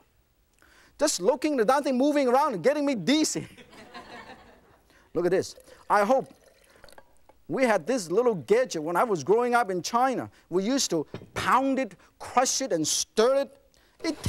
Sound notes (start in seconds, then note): 3.5 laughing